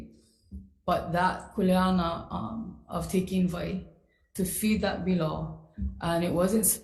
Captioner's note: speaks foreign language